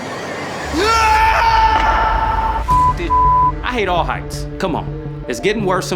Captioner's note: teammate screams; beep